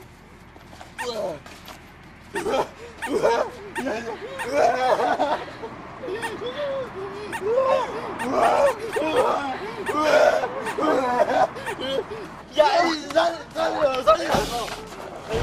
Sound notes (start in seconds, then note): 2.3 repeatedly makes vomit noises while panicking